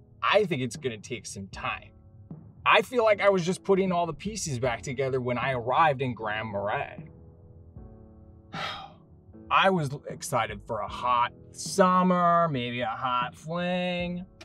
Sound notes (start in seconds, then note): 8.5 exhales loudly